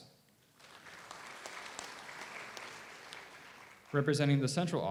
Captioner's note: audience applauds